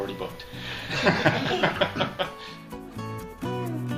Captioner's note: laughter; upbeat pop music